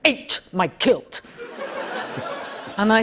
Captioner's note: laughter